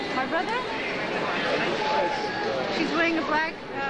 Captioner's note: woman murmurs